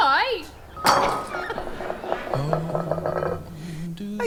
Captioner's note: bowl clattering; sentimental music